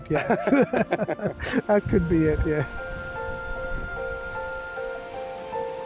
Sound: laughter

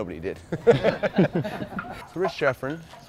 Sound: laughter

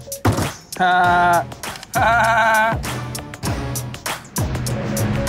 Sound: Vinny laughing; tense dramatic music

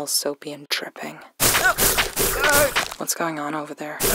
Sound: multiple web shoots

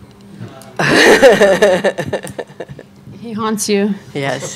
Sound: laughing

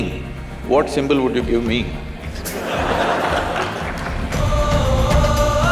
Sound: laughter

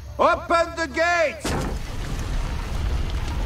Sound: gate opens

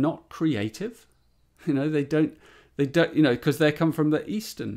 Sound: chuckles

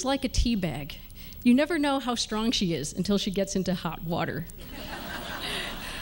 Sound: laughter

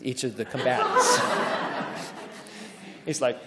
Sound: audience laughing

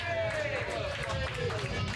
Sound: audience cheering

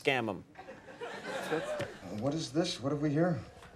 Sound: audience laughs

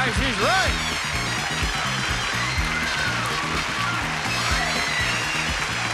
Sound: audience applauding

